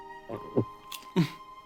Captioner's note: gulps